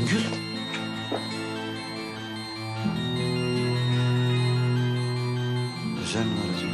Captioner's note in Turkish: Telefon çalması